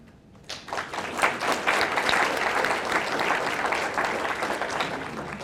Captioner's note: audience applauding